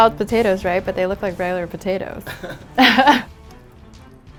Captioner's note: chuckling